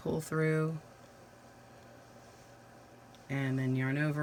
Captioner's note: silence